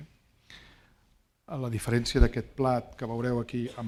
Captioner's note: speaking spanish